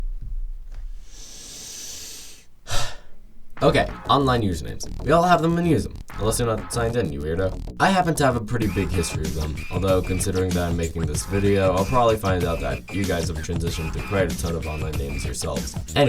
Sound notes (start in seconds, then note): 0.9 deep inhale; 2.6 exhale